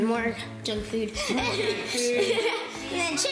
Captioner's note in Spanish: risa